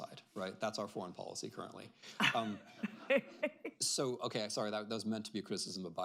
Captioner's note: laughter